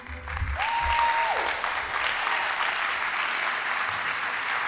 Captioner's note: audience applauding